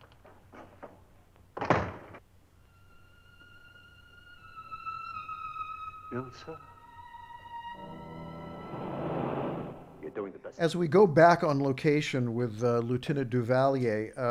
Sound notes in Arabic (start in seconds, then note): 1.6 إغلاق الباب; 2.8 عزف على الكمان